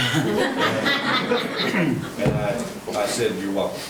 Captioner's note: attendees laughing